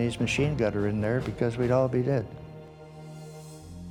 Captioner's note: voiceover